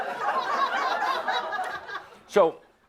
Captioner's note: more laughter as he takes a drink of soda; laughter